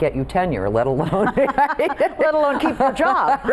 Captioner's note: women laughing